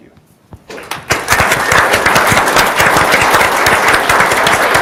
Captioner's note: audience applauds